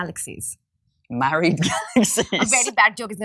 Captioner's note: laughs